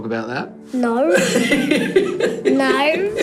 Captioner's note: laughing